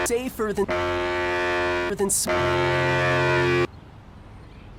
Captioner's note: buzzer